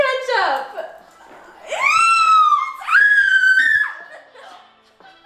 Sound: screaming

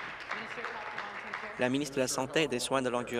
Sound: applause

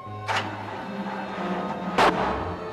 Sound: shooting

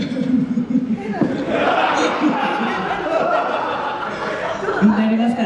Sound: laughs

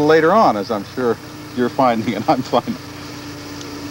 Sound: laughing

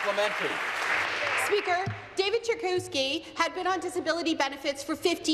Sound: applause

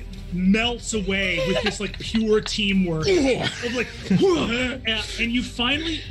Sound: grunts

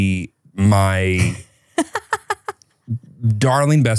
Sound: laughs

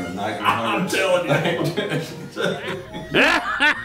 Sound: chuckling; laughing; gutteral laughter

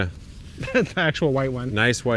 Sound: laughs

